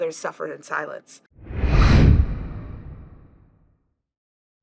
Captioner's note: air whooshing